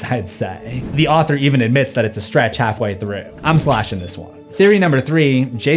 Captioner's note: laughing